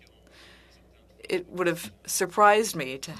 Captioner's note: speaking French